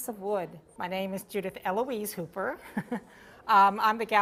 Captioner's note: laughs